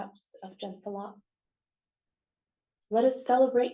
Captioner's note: non-english